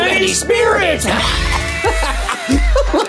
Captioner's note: both laughing; bouncy Halloween music